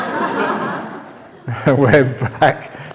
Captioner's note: laughter